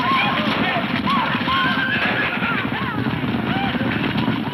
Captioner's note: horses neighing